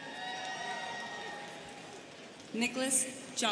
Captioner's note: students cheering